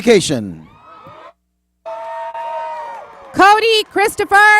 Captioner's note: cheers and applause